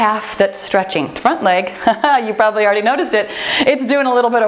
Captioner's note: chuckles